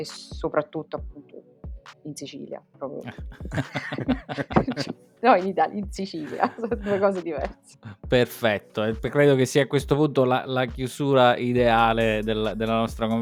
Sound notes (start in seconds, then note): 3.0 laughs